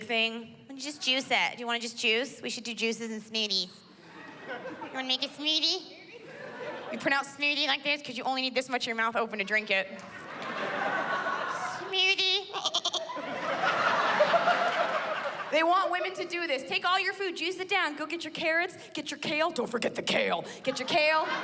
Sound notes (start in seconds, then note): 9.8 laughter; 12.4 mimics bleating